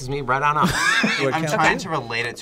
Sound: React laughs

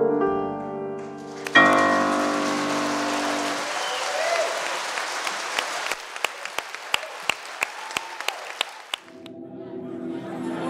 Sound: applause; drone sound, musical chord

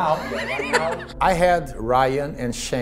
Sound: laughing

